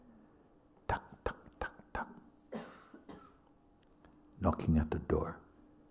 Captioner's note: makes knocking sounds